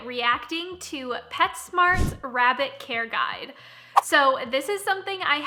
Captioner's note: whooshing; whooshing